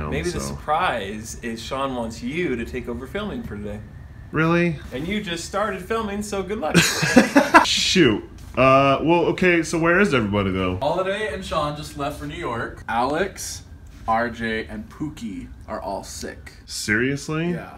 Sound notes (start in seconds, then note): 6.7 laughs